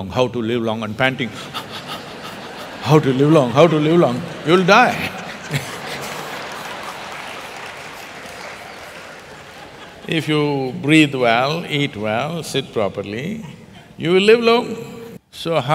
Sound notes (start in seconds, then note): 1.6 laughter; 5.9 laughter/Applause